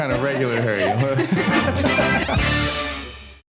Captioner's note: both laugh